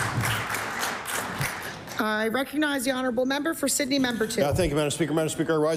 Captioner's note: applause